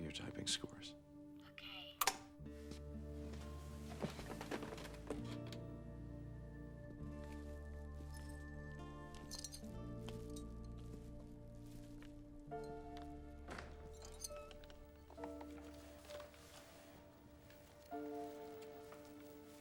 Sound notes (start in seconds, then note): 2.0 clicks off